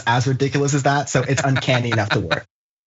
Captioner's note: laugh